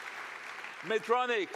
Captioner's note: applause